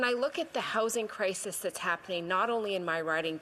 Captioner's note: none